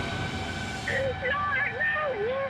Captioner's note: woman screaming over radio